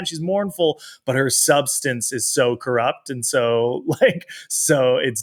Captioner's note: chuckles